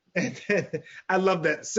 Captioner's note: laughs